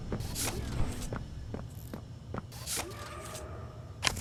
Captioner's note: footsteps